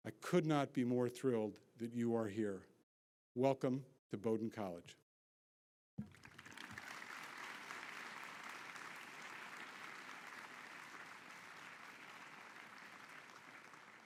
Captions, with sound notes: I could not be more thrilled that you are here. Welcome to Bowdoin College. (audience clapping)